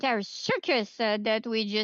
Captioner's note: speaking French